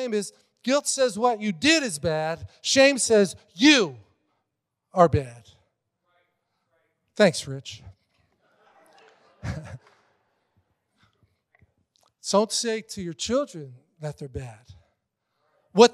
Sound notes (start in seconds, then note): 8.4 congregation laughing